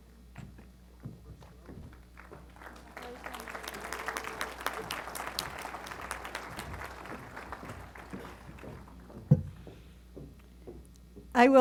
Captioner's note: applause